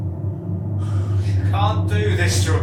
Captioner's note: electric buzzing